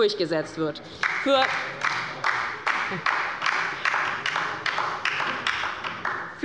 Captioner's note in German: Beifall bei der LINKEN